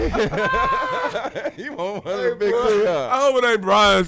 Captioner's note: laughing